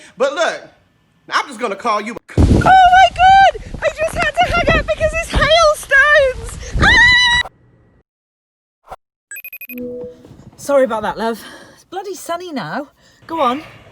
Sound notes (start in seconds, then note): 6.8 screams